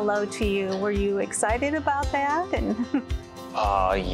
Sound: giggle

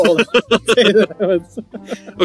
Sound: laughing

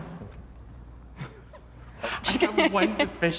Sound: all laughing

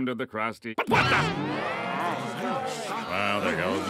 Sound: grumbling

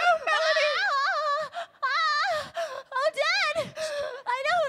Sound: wailing

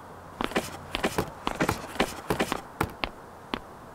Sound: muted unfurling and footsteps

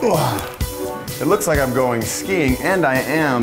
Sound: grunts

